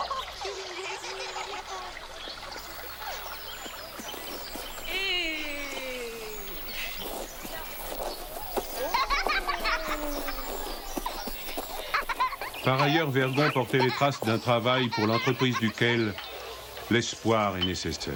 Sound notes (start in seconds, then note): 4.0 cheers, laughs